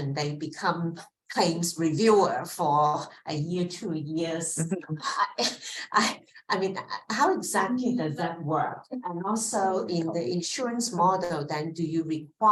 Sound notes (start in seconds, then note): 4.6 laughs